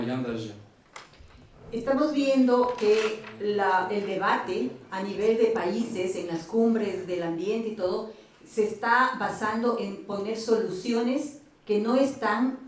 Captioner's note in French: Espagnol